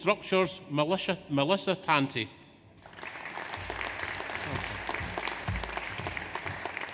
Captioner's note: audience applauds